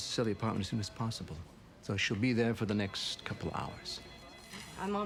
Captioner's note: none